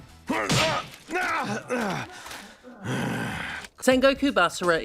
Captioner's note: yaaaarugh